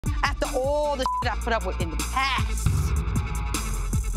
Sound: beep

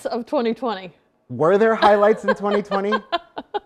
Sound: laughs

